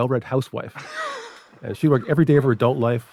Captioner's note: laughing